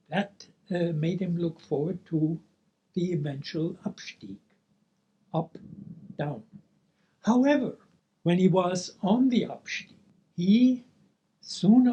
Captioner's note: speaking German; speaking German